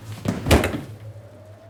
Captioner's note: thud